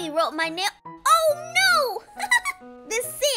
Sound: laughs

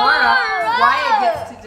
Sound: shouting in excitement

